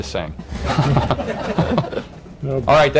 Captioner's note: laughter